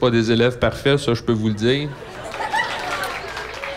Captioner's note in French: rires